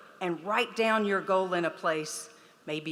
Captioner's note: none